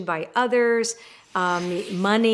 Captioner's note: air whooshing